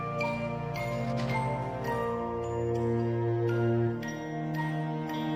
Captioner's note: page shuffling; tinkling music